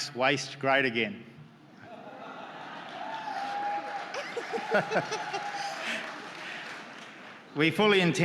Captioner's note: laughter and clapping